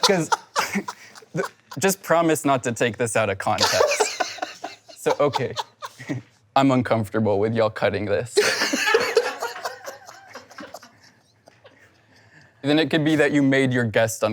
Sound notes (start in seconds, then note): 8.4 and crew laugh